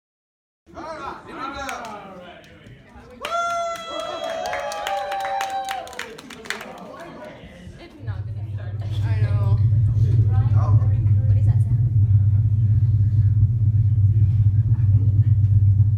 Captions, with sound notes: - All right. Here we go. - All right, here we go. (Scattered applause) (Excited murmuring)